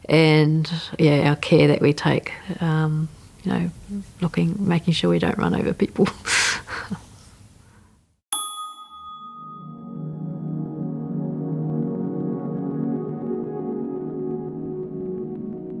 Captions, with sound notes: and our care that we take. Looking, making sure that we don't run over people (laughs). (bell ding and rising instrumental music)